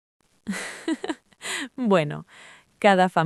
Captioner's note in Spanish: Risas